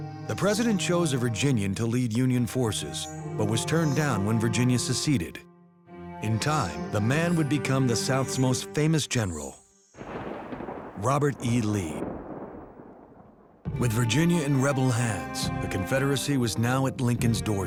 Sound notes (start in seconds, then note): 10.0 thunder roars